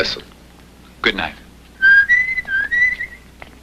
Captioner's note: whistling